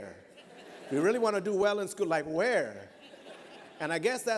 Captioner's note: laughter; laughter